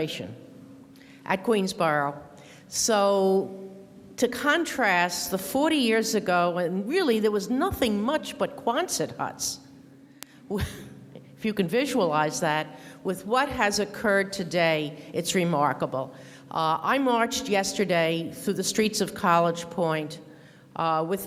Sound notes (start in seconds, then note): 10.7 laughs